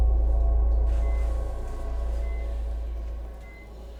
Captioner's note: heart monitor beeping steadily